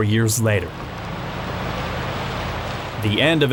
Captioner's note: car engine fades